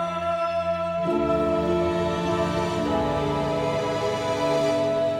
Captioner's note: Arthur's cry